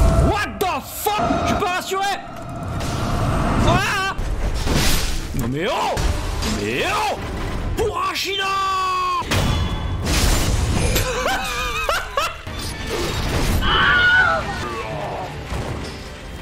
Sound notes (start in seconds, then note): 13.6 screams